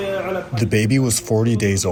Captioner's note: through translator